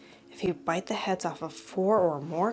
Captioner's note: none